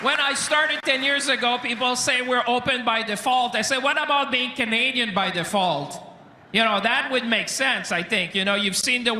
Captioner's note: cheering and Applause